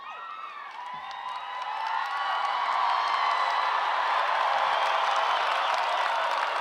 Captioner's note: cheers and applause